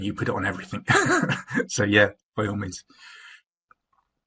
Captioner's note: laughter